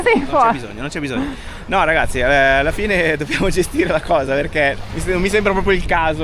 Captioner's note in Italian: risate